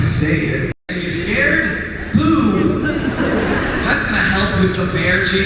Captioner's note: crowd laughs